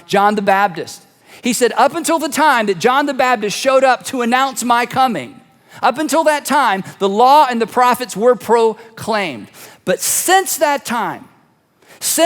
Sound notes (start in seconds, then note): none